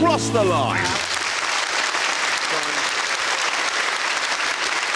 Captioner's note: clapping